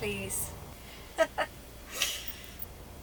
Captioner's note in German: lacht